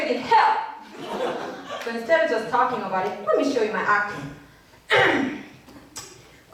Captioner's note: clear throat